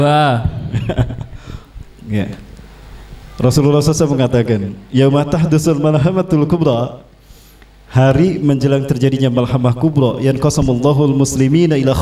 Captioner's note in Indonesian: reciting hadits